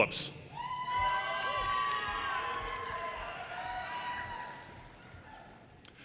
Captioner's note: audience cheers and applause